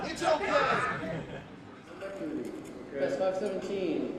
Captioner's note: crowd shouting